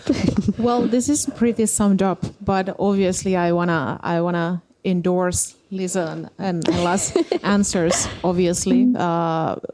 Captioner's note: naurua